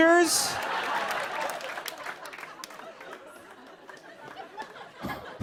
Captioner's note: laughter